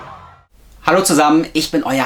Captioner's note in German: schreien